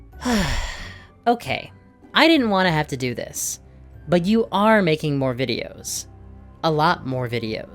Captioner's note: sigh